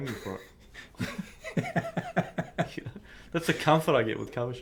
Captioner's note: laughing